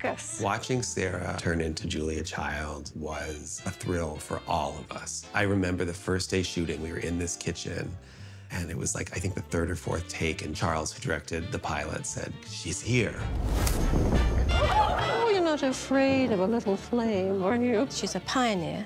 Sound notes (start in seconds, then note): 13.0 blowtorch hisses; 14.4 audience gasps, laughs